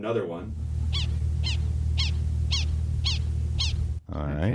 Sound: prairie dog chirping

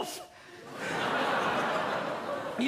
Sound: audience laughter

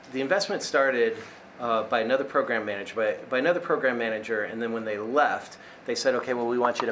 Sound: none

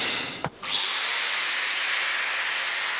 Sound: machine noises

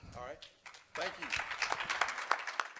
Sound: crowd applause

